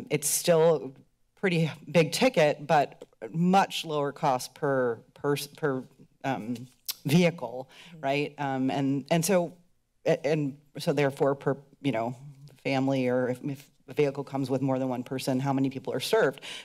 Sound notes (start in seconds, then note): none